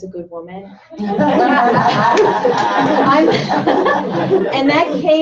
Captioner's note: laughter